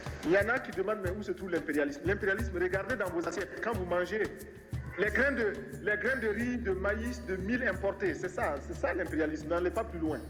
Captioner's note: speaking French